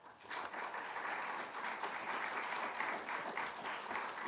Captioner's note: people clapping